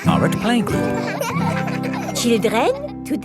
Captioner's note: children laughing